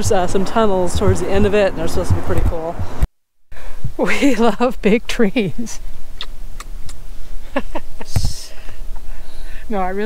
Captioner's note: kiss kiss